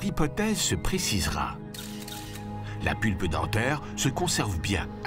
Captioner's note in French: clics de caméra